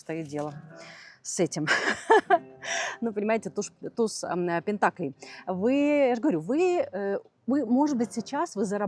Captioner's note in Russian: смех